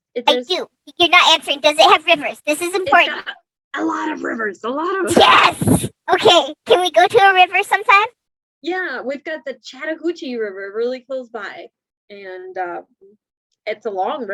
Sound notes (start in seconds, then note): 0.0 laughs; 4.0 super excited